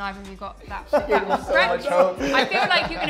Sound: chuckle

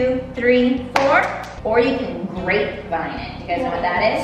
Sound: hands clap

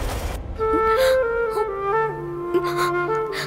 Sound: crying

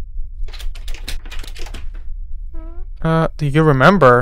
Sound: door handle squeaks

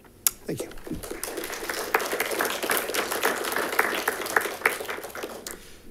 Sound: congregation claps

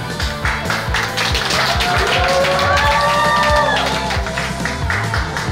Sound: people cheer and clap; upbeat rock music

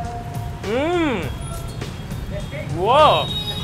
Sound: groans

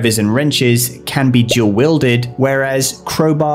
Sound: bubble pops

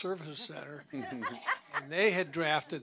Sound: laughter

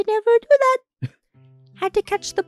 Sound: chuckles

